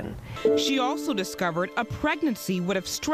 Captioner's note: voiceover